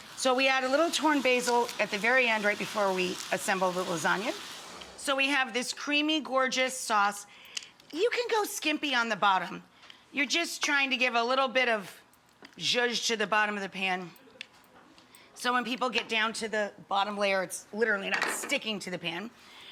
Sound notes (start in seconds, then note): none